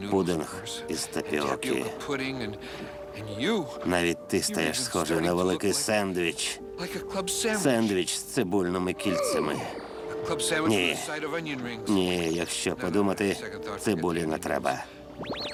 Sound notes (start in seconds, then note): 7.4 Garfield yelling; 9.0 Odie yelping